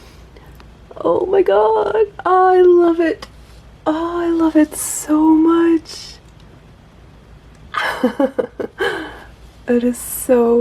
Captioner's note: laughs